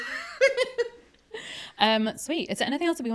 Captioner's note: laughs